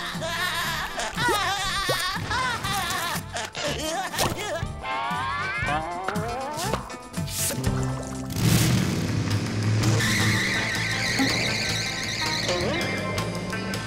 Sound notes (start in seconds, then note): 0.0 laughing; 9.8 tires squealing